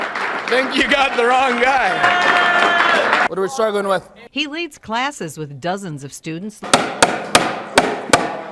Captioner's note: applause